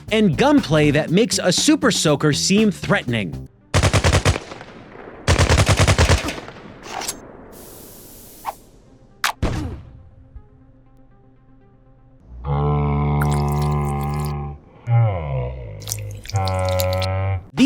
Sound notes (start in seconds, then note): 5.3 gunfire continues; 7.5 fuse hisses; 9.2 brief pop; 12.3 mooing